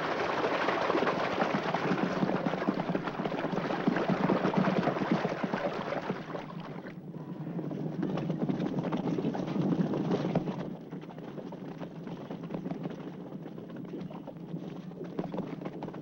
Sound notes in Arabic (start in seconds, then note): 0.6 حوافر تدق